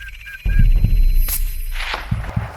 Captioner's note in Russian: выстрел